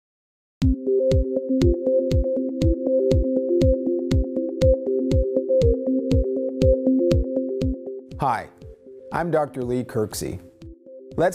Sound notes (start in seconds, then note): 7.1 heart beating